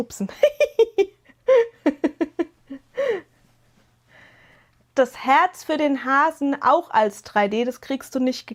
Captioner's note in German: gelächter